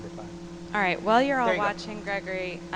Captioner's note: voiceover